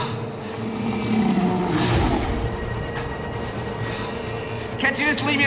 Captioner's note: creature growling